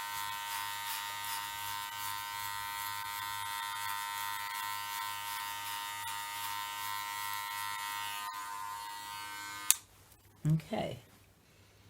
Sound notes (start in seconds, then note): 9.6 click